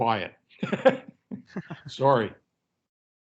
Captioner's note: laughs